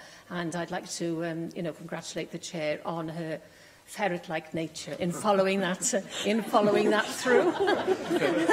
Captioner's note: laughter